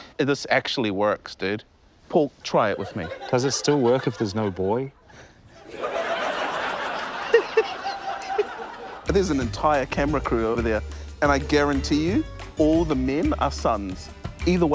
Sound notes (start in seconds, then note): 5.5 laughter; 7.4 laughs maniacally